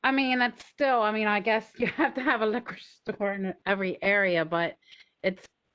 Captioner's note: laughter